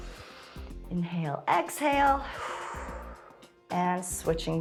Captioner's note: exhales; inhales